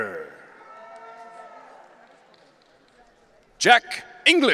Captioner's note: audience cheering